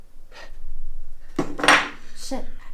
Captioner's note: glass thuds